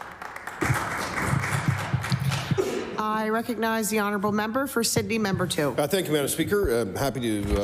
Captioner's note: applause